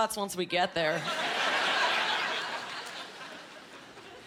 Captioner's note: laughing